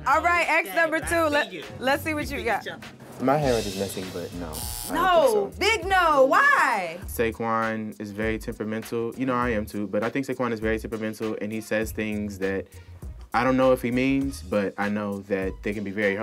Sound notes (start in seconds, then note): 4.5 buzzer